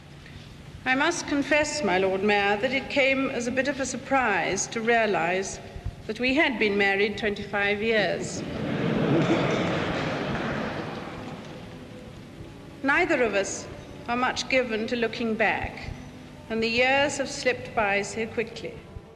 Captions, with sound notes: - I must confess, My Lord Mayor, that it came as a bit of a surprise to realize that we had been married 25 years. (people laughing) Neither of us are much given to looking back, and the years have slipped by so quickly.